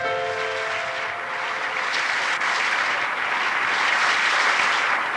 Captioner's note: audience applauds